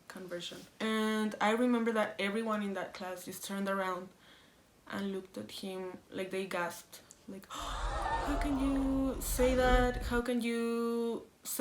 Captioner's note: gasp